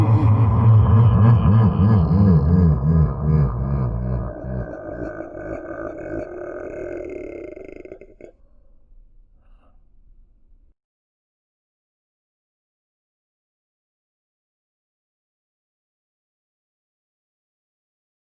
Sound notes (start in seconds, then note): 5.1 evil laugh